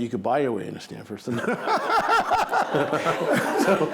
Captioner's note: laughing